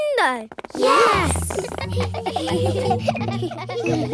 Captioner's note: giggling